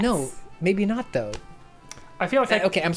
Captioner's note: pat